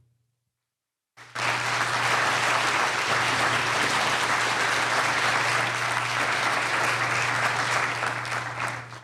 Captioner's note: applause